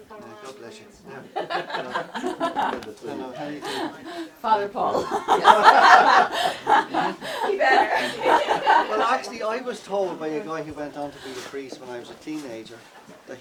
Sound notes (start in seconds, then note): 1.4 laughing; 5.3 everyone laughing